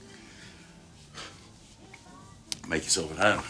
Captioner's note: sighs